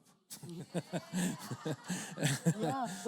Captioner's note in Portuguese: risos da plateia